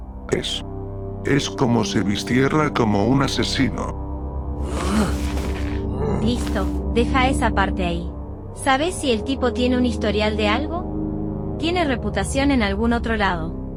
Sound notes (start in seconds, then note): 4.6 grunting